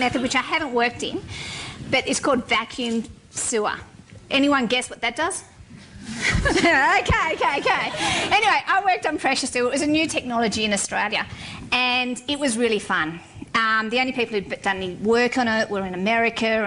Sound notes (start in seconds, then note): 6.3 laughter; 6.7 laughing